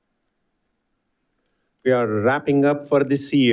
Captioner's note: none